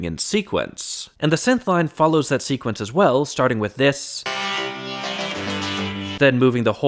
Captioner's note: bang